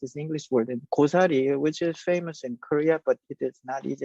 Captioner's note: speaks Korean